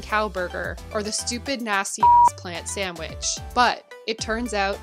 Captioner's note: beep